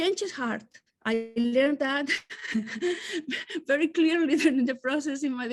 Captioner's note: laughs